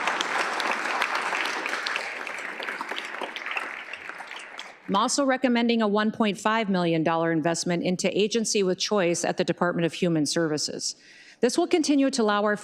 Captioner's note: applause